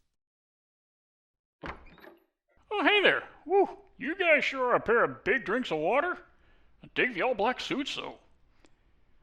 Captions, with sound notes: (door opens) Oh hey there! Whoo, you guys sure are a pair of big drinks of water! I dig the all black suits though.